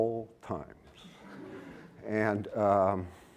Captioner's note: laughter